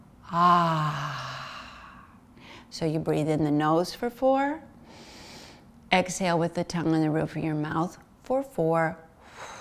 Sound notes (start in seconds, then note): 5.2 inhales